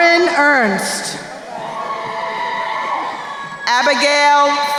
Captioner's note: crowd cheering